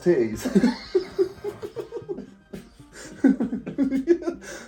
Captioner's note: both laughing